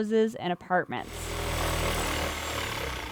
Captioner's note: sawing noise